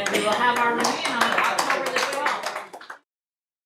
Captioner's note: applause